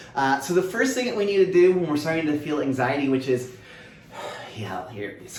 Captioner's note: taking breaths